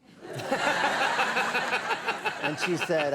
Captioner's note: audience laughing; Conan laughing